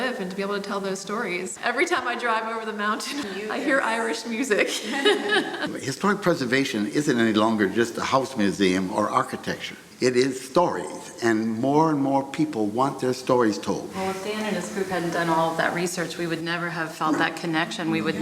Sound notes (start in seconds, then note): 4.6 laughs